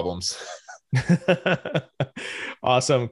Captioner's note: both chuckle